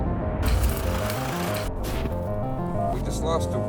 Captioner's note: welder zapping